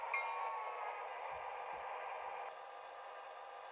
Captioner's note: prime mover and bells calm down